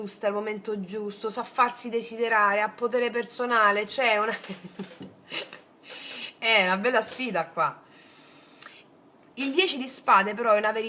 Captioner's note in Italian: risate